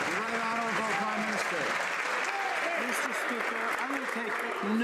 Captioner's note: some Applause